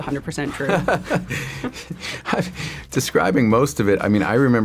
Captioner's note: laughs